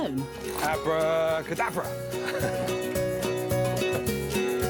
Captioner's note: chuckles